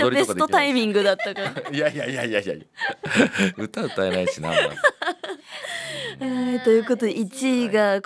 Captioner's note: laughs